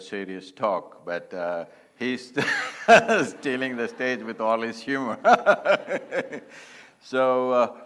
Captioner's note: laughs